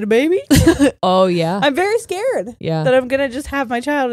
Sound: laughs

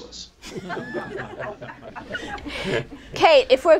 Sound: laughter

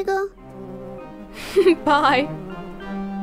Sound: chuckles

